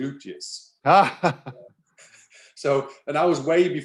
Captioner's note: laughing